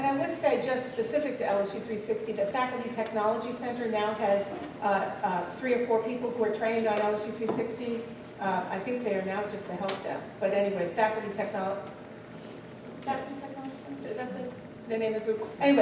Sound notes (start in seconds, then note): none